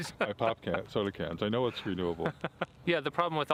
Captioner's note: gülüyor